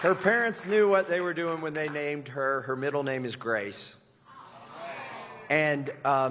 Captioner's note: applause